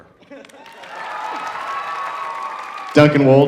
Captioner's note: audience cheering